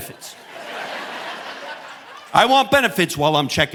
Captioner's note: audience laughing